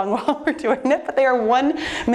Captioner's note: laughing